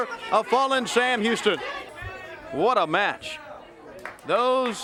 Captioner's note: crowd chatter